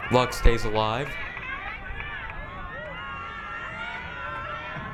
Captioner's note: crowd cheering